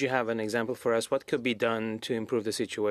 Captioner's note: speaking French